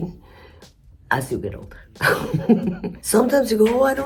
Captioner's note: laughs